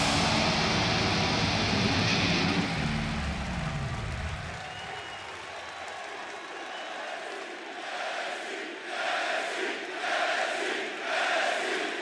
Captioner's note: crowd cheering